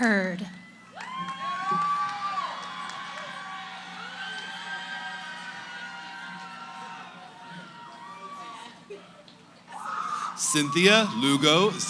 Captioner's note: cheering